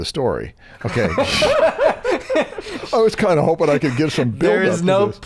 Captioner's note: laughter